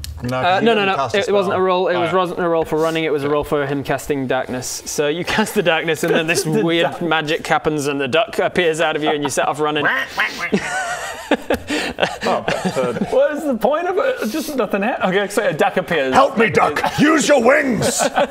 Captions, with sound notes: - no no it wasn't a roll - no cos you didn't cast a spell it wasn't a roll for running it was a role for him casting darkness so you cast the darkness and this weird magic happens and the duck appears out of you and you set off running *quaack quack quack quack* oh so what is the point of it? Just nothing hap-- ok sweet a duck appears Help me duck! Use your wings!